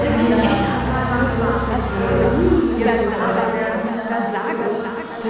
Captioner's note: echoing voices